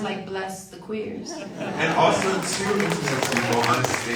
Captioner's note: audience applauds